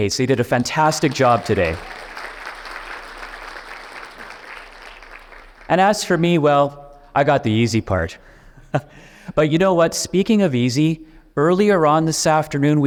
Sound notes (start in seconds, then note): 2.1 audience clapping; 8.5 chuckles